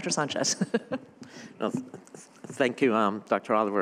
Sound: laughter

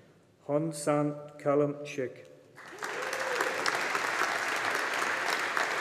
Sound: audience applauding

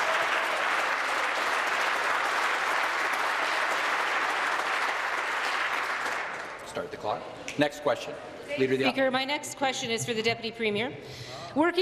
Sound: applause

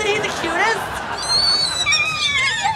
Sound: squealing

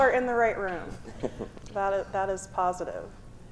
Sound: chuckles

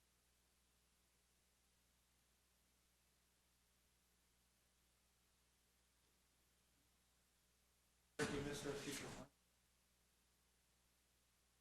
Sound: silence

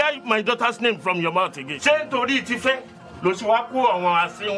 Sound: speaking in foreign language

